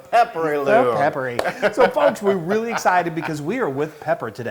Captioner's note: laugh